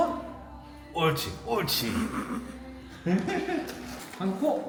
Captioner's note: hahahahahaha